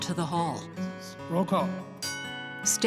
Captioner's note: bell rings